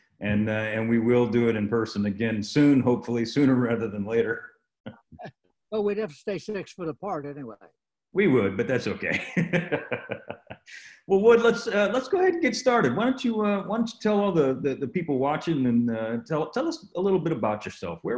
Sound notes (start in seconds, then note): 6.0 laughing; 8.8 laughing